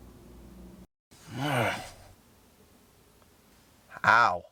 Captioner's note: grunts